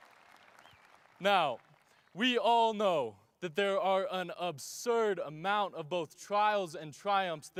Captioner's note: cheers and applause